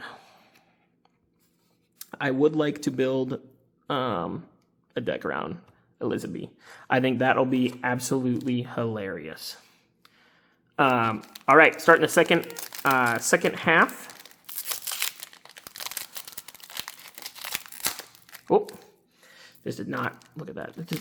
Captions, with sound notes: I would like to build a deck around Elizabeth. I think that'll be absolutely hilarious. All right, starting the second half. (paper crinkling) This did not, look at that.